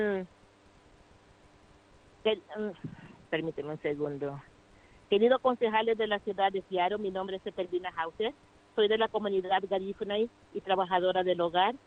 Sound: speaking foreign language

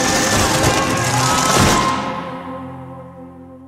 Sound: crashing; yelling

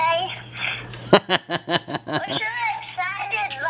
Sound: laughs

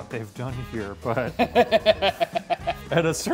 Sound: laughing

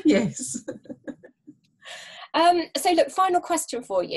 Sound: laughter

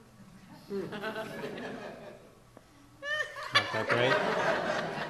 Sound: audience laughs

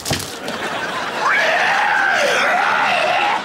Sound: screaming

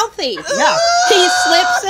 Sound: groans with laughter

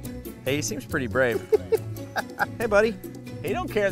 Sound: laughing

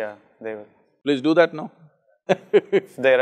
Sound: laughs

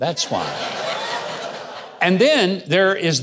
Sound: audience laughing

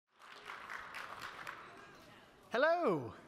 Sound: audience applauding

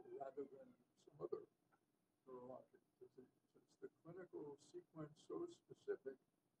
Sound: off microphone

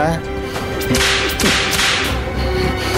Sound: whipping

